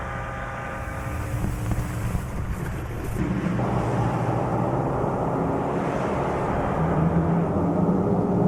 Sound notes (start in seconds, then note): 0.8 static hissing